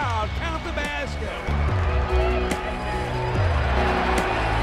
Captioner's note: crowd cheering; soft rock music